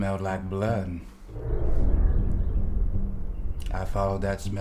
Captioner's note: air whooshing